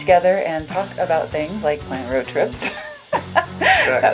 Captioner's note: laughs